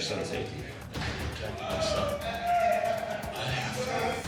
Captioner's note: inmates shouting outside